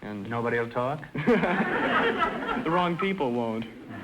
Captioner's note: audience laughter